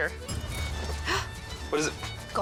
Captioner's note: gasps